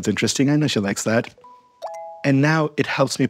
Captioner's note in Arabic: رنين أجراس